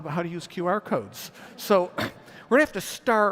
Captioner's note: audience laughs